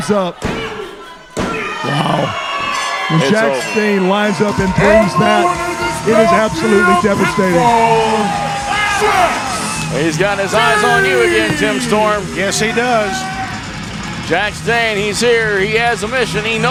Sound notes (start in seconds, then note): 1.6 crowd cheering; 2.6 bell rings; 8.0 crowd cheering